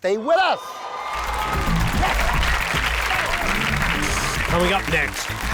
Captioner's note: audience applauds